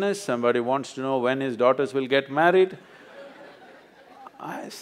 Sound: laughter

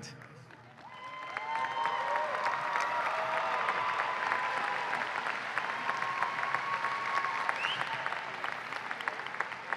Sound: applause and cheering

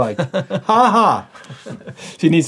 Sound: laughing

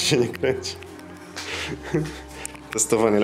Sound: laughs

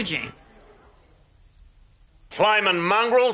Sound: crickets chirp

